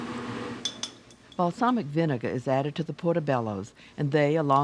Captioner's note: voiceover